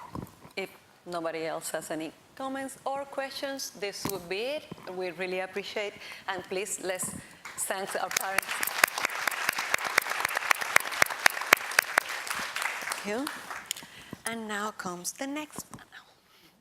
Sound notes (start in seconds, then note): 9.2 applause